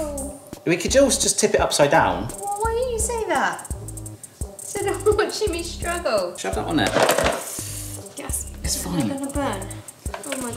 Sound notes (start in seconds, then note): 6.9 board clunks